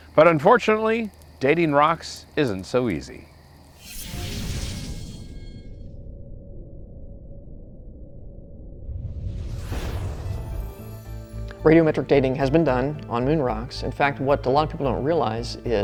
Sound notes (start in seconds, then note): 5.1 digital rumbling